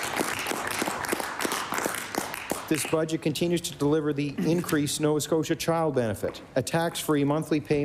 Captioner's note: applause